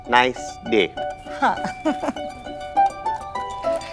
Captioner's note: Padimini laughs